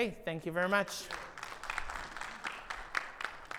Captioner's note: audience applauds